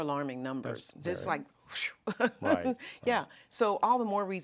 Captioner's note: laughs